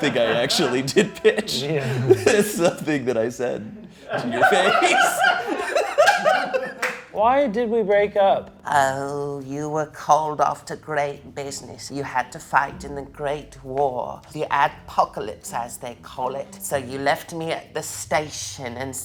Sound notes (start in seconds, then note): 0.0 crew member laughing; 3.6 laughs; 4.5 crew member laughing